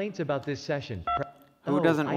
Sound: key tone

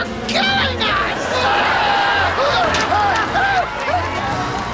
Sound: screaming

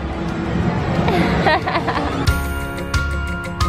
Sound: laughs

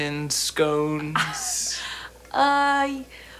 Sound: Sam chuckles

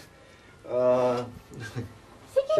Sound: chuckles

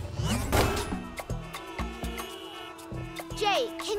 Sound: honking

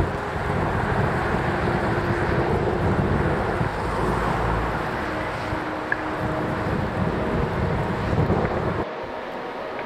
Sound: road noise

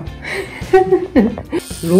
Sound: laugh

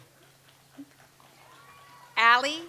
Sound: audience applauds

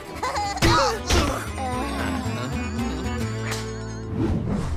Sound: all groaning

